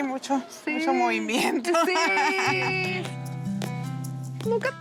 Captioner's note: laughter